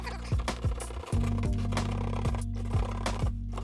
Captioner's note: tool scraping